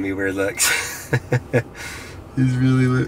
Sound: chuckles

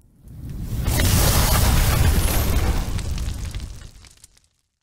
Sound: sparks buzzing

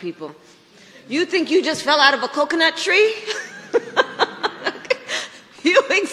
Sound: laughs

